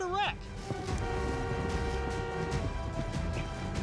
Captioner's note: car horns honking